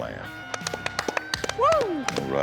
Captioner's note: applause, cheers